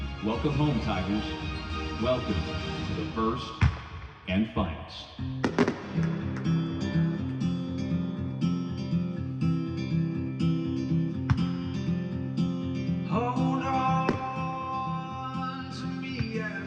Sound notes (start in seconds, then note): 0.0 energetic symphony music; 5.4 firecrackers booming; 5.5 energetic music; 11.3 firecrackers booming